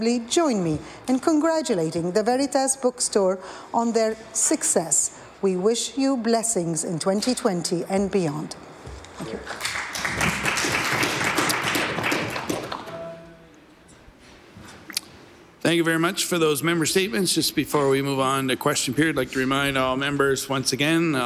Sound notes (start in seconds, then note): 12.6 applause